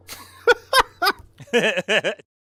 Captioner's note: laugh